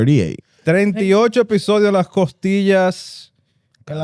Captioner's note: speaking Spanish